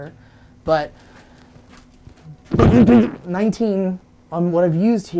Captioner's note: low rumbling